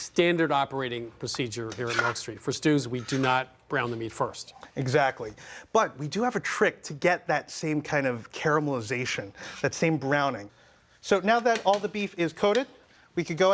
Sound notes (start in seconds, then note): none